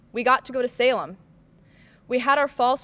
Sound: none

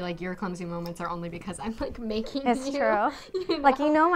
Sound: chuckles

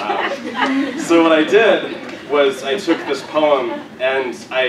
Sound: laugh

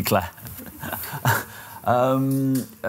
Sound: laughter

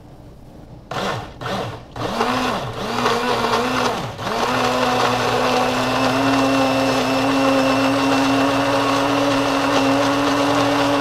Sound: blender whirs

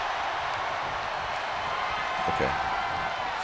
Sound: applause

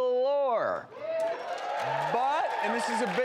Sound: audience applause

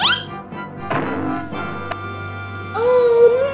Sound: soft thud

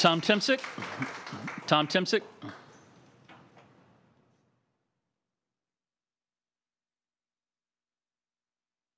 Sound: applause

